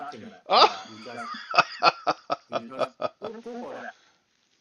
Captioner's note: laughter